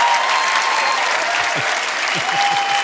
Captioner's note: audience cheering and applauding; chuckles